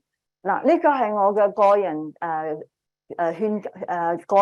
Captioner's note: speaking chinese